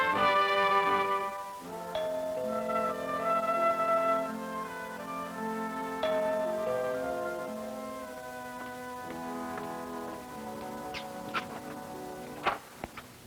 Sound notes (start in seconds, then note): 1.9 doorbell; 6.0 doorbell